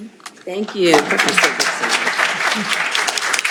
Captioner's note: applause